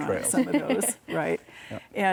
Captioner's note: laughs